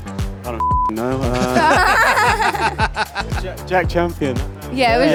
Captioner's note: laughter